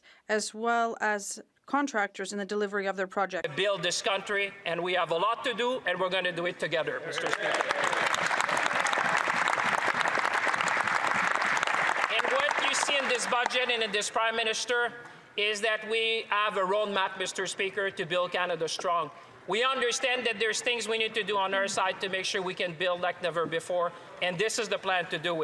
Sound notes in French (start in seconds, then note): 5.9 voix de l'interprète; 14.1 applaudissements